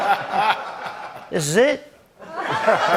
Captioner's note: laughter; Italian accent; laughter